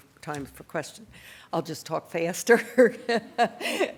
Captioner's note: laughs